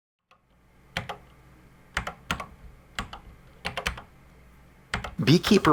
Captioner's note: typing on a C64 keyboard